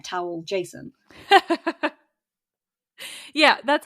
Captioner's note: laughs